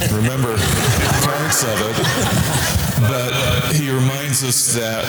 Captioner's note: audience laughter